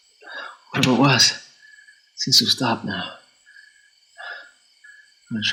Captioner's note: stones thumping